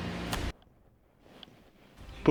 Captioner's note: click